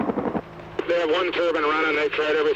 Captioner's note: radio Communication